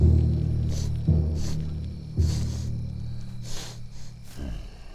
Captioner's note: caveman sniffing